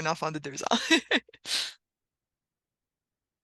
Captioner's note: glousse